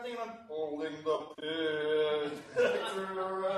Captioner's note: talking very slowly